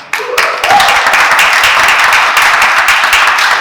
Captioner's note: applause